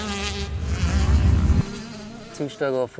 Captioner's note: whoosh sfx